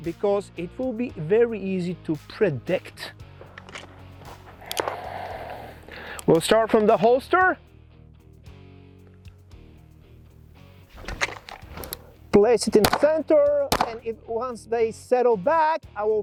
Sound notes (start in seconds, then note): 4.6 safety switch clicks; 10.9 holster rattles